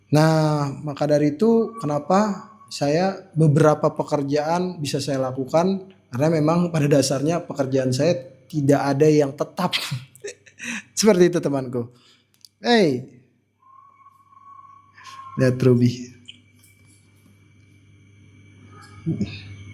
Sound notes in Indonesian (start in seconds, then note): 10.2 tertawa